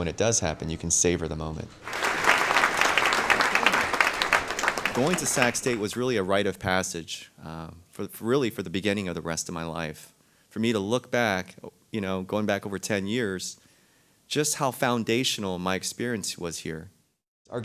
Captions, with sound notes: it does come, you can savor the moment. [Clapping] Going to Sac State was a rite of passage, really, for the beginning for the rest of my life. For me to look back, going over 10 years, just how foundational my experience was here.